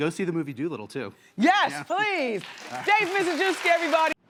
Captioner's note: audience clapping